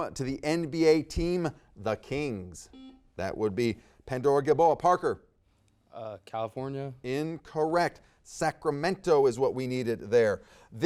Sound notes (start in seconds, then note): 2.7 buzzer dings